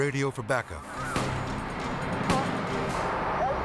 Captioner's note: gun firing